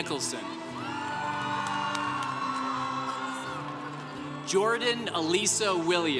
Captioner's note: congregation cheering